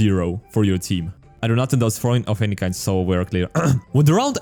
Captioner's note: ahem